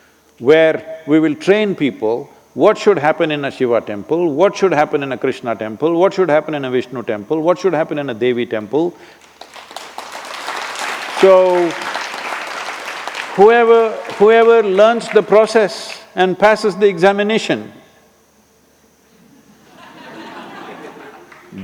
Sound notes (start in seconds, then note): 12.3 applause; 19.2 laughter